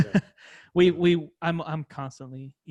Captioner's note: laughs